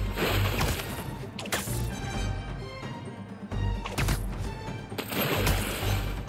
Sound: water splashing; webs thwipping

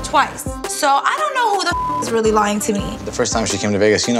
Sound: beep

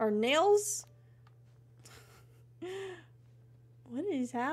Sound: laughing

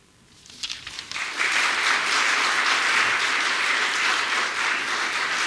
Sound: audience applauding

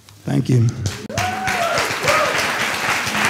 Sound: cheers and applause

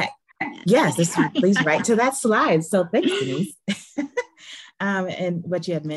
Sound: laughs

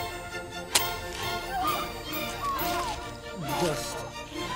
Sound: fleshy thunk; screaming

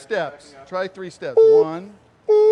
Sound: someone imitates a backup beep

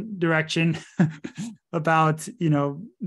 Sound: laughing

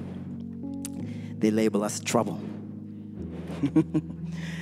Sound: laughs

